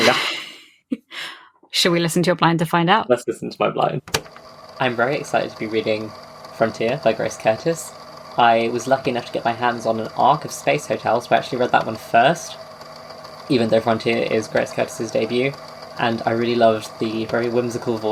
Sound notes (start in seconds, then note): 0.5 laughs; 4.1 tape recorder clicks on